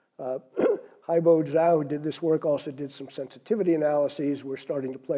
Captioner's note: cough